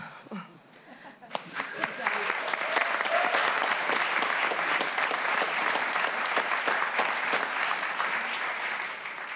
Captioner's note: applause